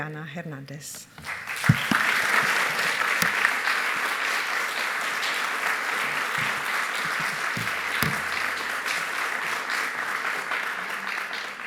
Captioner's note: applause